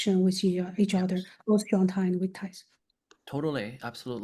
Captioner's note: faintly speaking